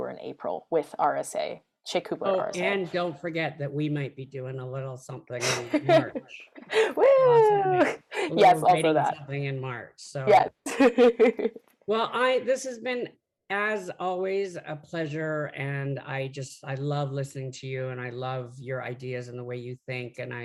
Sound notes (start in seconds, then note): 5.4 laughs; 7.0 cheering